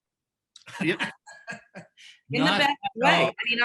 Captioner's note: laughing